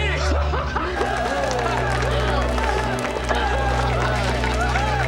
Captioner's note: cheering